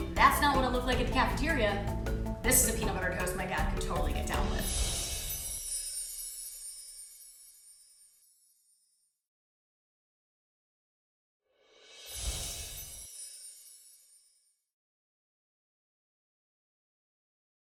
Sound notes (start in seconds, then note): 4.9 bells chiming; 12.5 bells chiming